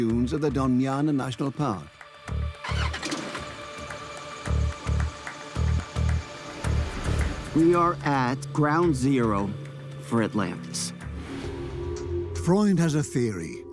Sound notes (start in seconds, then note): 2.2 car engine starting; 5.2 rhythmic music